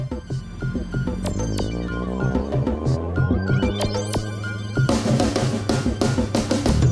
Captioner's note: engine rumbling